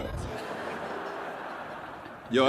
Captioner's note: laughs